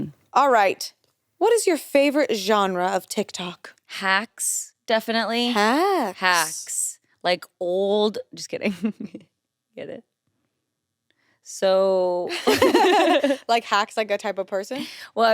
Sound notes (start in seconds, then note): 8.8 chuckles; 12.4 everyone laughs